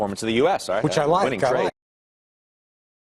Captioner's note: voiceover